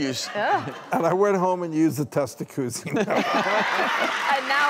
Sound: audience laughs; laughs

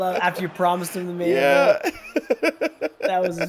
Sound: laugh

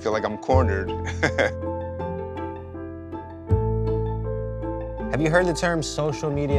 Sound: laughs

